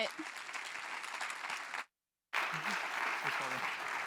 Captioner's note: crowd clapping